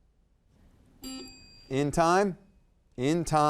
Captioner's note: timer dings; buzzer dings